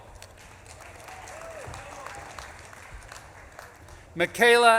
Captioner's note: audience claps and cheers